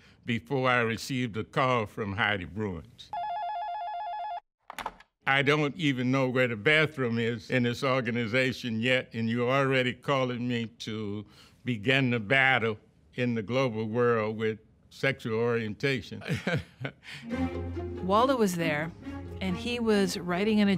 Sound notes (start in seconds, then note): 3.1 phone ringing; 16.2 laughs; 17.2 dramatic instrumental music